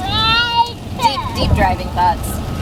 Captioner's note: whining